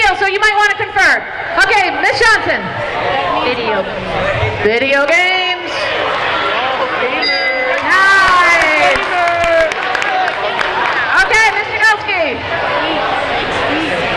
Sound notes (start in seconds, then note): 7.2 dinging